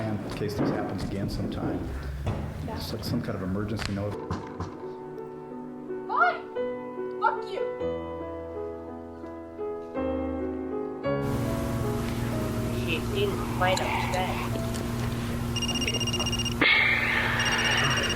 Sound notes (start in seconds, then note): 4.1 tv playing; 15.5 phone rings